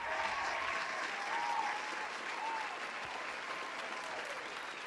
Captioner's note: crowd applauding